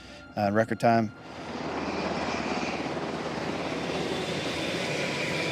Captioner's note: helicopter whirring